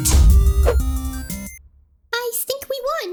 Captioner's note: punch